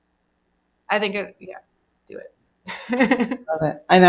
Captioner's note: laughs